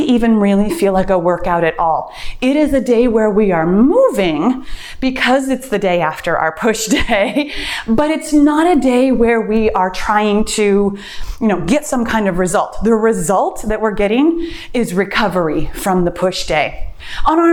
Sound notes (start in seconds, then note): 6.7 laughs